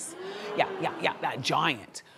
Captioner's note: audience hums